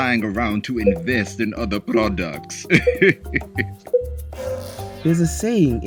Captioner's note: laughs